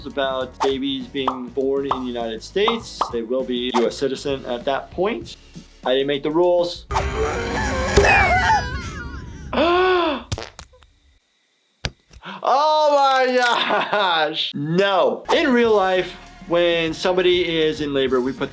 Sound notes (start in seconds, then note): 6.8 mother grunting; 7.2 baby crying; 9.6 gasping; 13.5 laughing